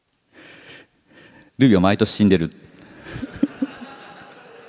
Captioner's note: chuckles